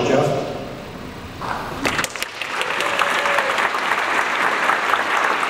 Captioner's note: audience applauds